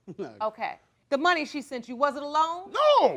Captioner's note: chuckling